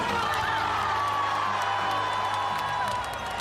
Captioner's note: crowd cheers